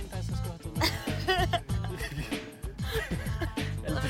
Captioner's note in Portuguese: ambos rindo